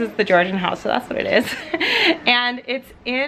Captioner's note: chuckling